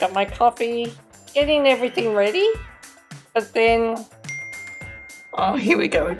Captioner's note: phone dings